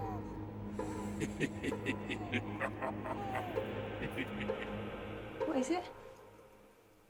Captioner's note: sinister music; leprechaun laughing